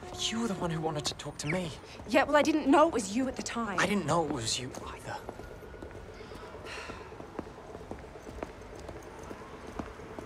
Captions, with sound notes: You're the one who wanted to talk to me. Yeah, well, I didn't know it was you at the time. I didn't know it was you either. (sighs)